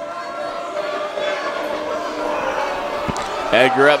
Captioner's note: crowd jeering